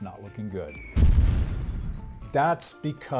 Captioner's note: bomb whistles and explodes